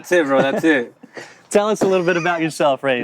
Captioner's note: laughs